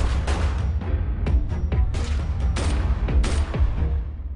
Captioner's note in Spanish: Disparos